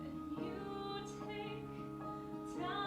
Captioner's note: none